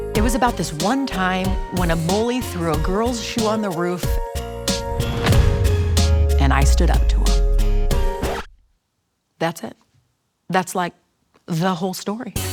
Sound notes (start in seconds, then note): 7.9 record scratching